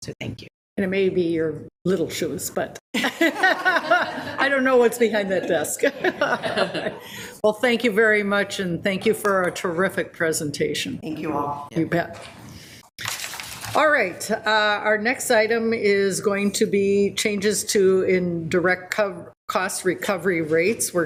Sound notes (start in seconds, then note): 2.9 people laughing; 5.8 laughs